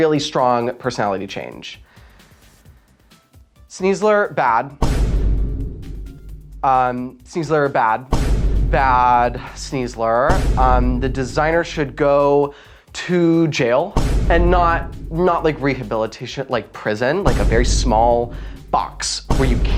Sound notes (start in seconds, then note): 1.8 big breath; 4.8 boom noise; 8.1 boom noise; 16.9 boom noise